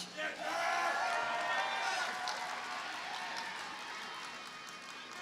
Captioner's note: audience cheers and applauds